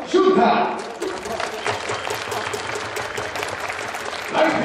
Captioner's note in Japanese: 拍手